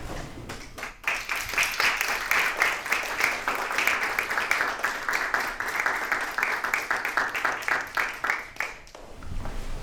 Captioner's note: applause